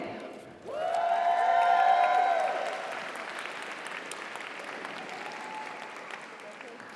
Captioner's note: audience cheers; audience applauds